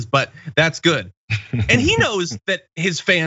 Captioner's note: laugh